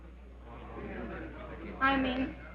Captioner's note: crowd murmuring